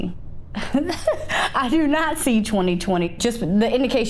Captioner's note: chuckling